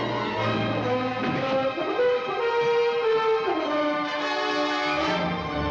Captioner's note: men struggling; dramatic music